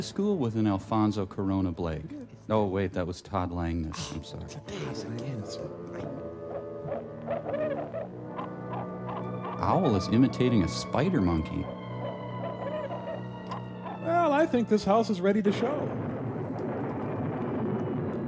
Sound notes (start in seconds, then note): 5.9 grumbling; 6.4 hooting; 15.8 thunder rumbles